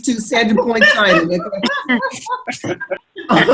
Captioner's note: laughing